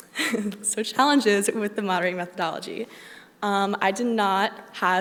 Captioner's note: laughs